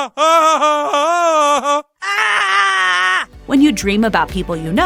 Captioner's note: laughs, screams